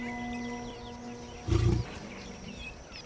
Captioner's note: growls